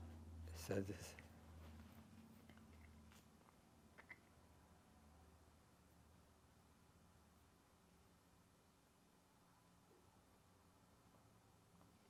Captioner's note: pauses 12 seconds